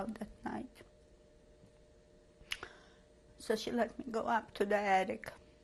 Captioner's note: pauses for 3 seconds